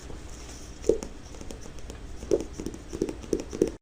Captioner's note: paper tapping